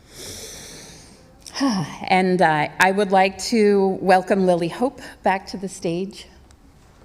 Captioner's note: speaking native language